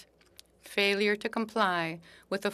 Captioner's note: speaking French